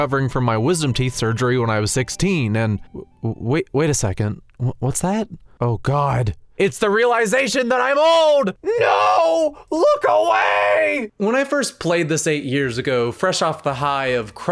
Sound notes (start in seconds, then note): 8.6 screams